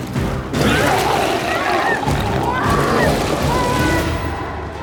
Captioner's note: biker screams